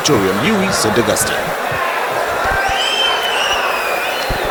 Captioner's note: wild applause and cheering for 22 seconds